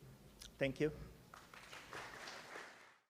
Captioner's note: applause